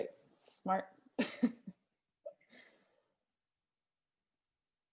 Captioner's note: laughs